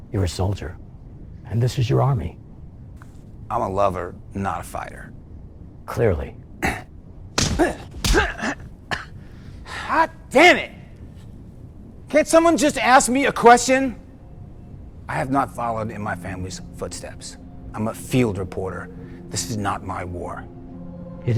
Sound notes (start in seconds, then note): 7.4 punch smacking; 7.4 David grunting